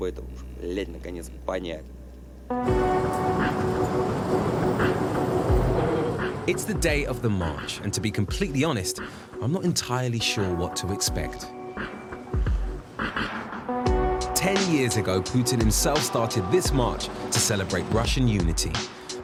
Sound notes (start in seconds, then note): 2.5 suspenseful music; 2.5 tram whirring